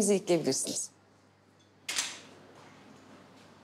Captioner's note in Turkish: Kapı açılıyor